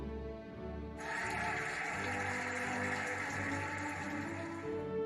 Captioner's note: cheering and applauding